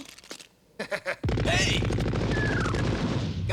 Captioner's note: laughs